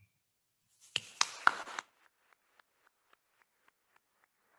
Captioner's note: attendees applauding